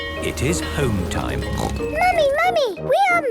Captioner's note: snorts